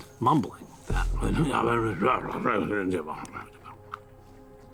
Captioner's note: imitates mumbling